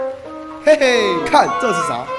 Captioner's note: laugh